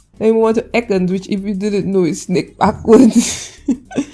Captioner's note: laughing